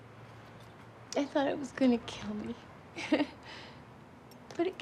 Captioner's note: chuckles